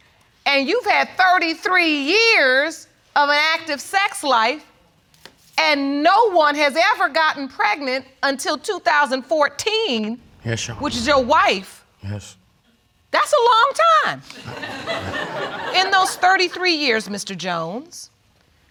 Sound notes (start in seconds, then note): 14.3 audience laughing